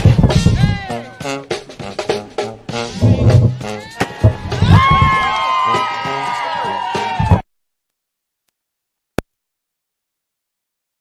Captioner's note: cheering and applause